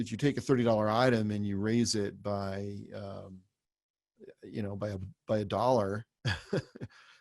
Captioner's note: laughs